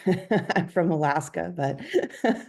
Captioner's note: laughter